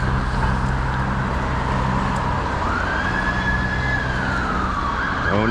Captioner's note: police sirens approaching